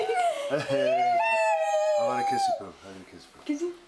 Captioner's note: laugh